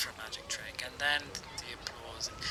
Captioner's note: background applause ends